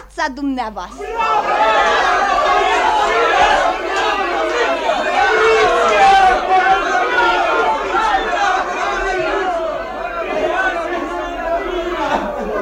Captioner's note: cheers